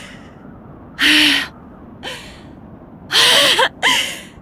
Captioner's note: sigh